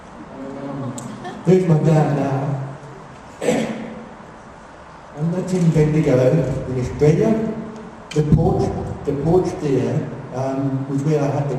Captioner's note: laughter